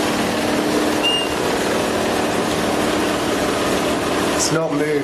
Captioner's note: device beeping